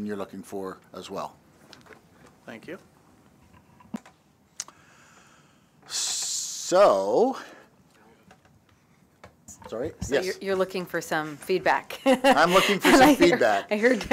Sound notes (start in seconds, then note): 12.0 laughter